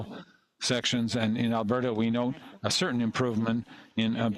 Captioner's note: speaking French